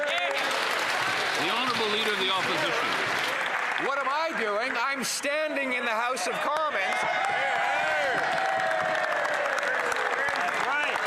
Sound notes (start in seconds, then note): 5.1 some Applause